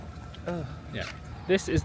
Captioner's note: groans